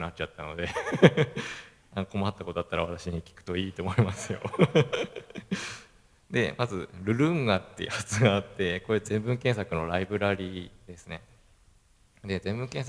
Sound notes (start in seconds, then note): 0.6 laugh; 3.8 laugh